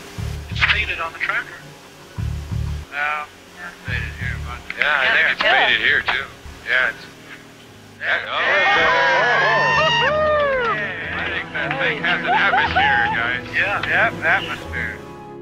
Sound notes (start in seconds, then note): 8.5 applause on radio